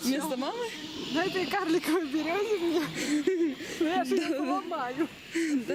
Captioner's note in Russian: передразнивает